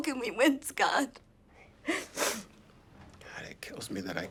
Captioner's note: sobs